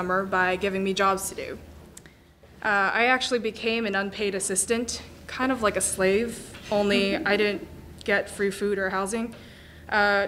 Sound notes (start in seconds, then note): 6.9 crowd laughing